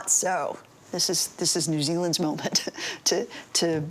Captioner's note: laughs